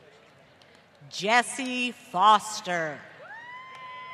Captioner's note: applause